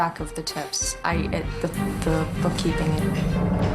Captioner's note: stammering